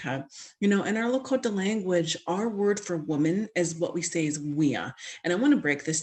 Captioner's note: speaking Lakota